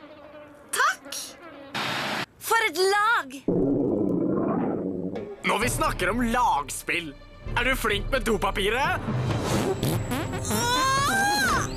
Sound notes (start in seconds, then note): 3.5 rumbling; 9.5 farting